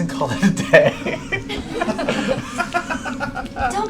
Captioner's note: laughter